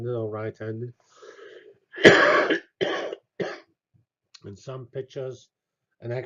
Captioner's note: cough